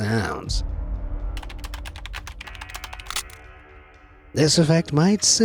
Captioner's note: keys clanks, finger cracks